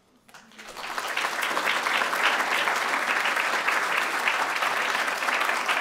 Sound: applause

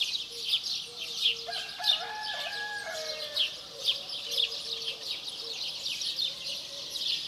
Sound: birds chirping; rooster crowing

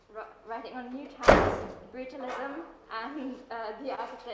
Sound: door slams loudly

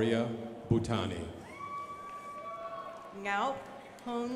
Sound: crowd applauding

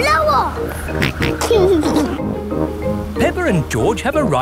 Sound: snorts and giggles

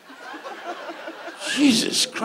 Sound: audience laughs

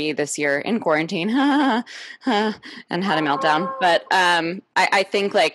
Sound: laughs

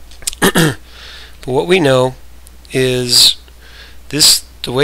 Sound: coughs

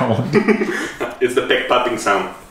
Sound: laughs

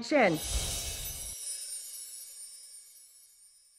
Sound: whooshing

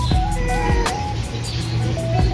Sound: Mapa Meowing

